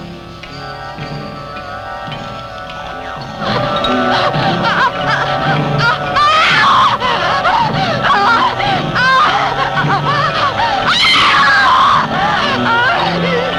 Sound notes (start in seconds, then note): 0.3 ominous music; 4.1 whimpering; 10.6 screaming